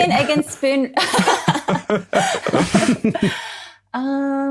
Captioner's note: group laughing